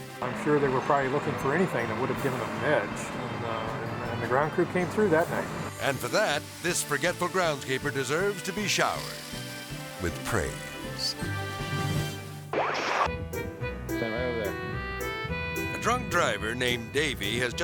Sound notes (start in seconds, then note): 9.1 water spraying; 11.8 majestic music; 11.8 screen static; 13.1 melodic music